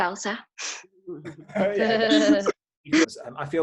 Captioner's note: laughs